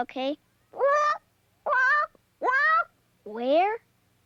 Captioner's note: squawking